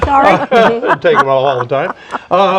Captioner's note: laughs